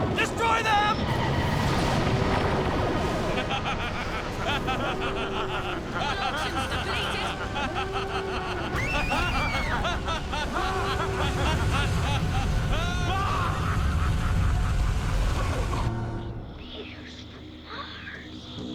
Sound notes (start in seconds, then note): 1.4 klaxon blares; 3.1 sinister martian laughter; 8.7 female screams; 16.1 whispers